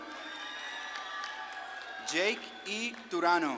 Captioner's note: audience claps and cheers